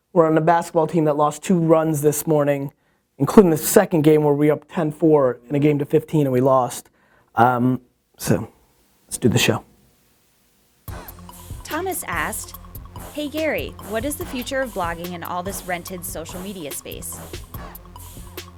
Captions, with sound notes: were on a basketball team that lost two runs this morning including the second game where we were up ten, four in a game to 15 and we lost. So, let's do the show. - [Voiceover] Thomas asked, "Hey Gary, "what is the future of blogging in all this "rented social media space?"